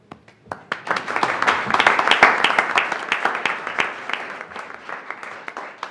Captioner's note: board members applauding